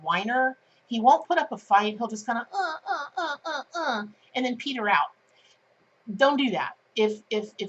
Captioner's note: defeated noises